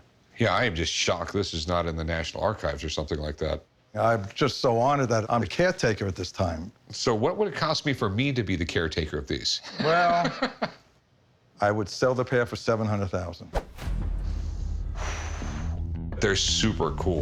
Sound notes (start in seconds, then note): 9.7 laughs; 14.1 exhales